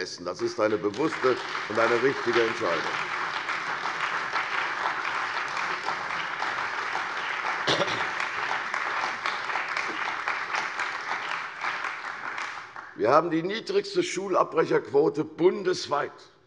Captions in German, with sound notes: Das ist eine bewusste und richtige Entscheidung. [Beifall bei der CDU und dem BÜNDNIS 90/DIE GRÜNEN] Wir haben die niedrigste Schulabbrecherquote bundesweit;